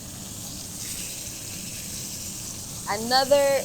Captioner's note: meat sizzling